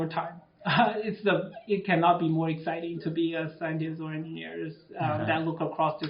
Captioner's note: laughs